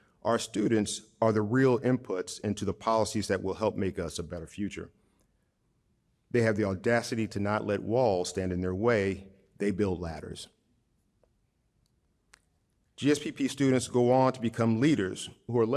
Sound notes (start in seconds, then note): none